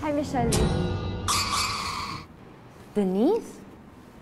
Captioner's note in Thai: เสียงหดหู่